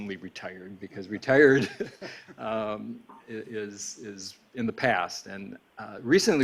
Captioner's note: laughs